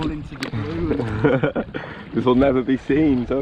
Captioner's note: laughing